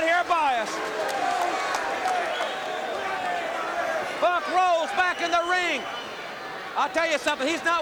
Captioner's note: applause